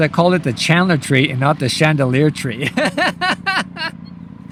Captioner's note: laughs